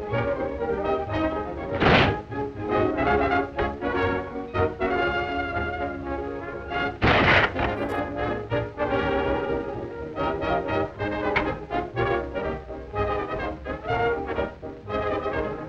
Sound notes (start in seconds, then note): 1.8 door bangs; 4.5 frantic orchestra music; 7.0 door bangs; 9.7 frantic orchestra music